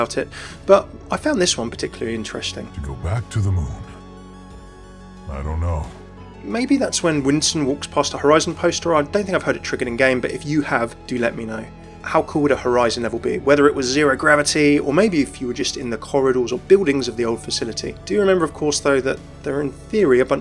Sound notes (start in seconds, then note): 3.2 voiceover